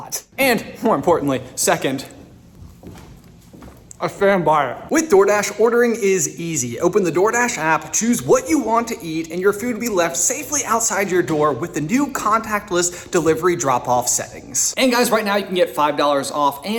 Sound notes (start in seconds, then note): none